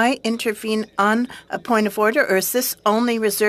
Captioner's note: speaking french